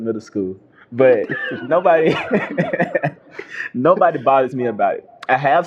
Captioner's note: laughter